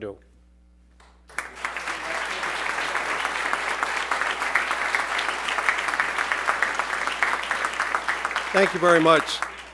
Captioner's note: applause